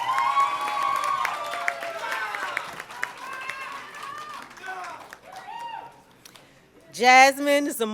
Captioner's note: cheering and Applause